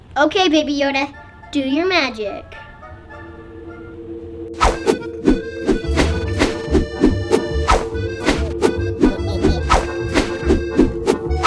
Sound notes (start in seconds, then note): 2.1 action music; 3.0 whooshing